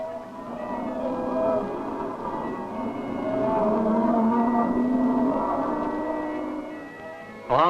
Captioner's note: cattle mooing and inaudible drover's voice